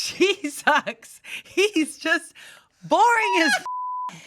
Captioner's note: beep